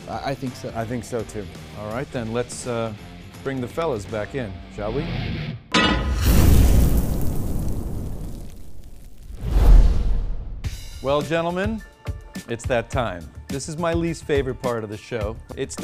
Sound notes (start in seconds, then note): 5.7 pan clanks; 6.0 burst of flames